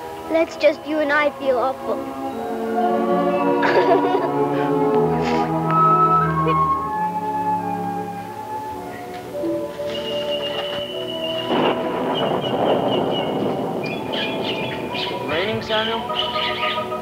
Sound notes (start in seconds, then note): 3.6 Lydia sobs; 9.3 suspenseful music; 10.7 thunder cracks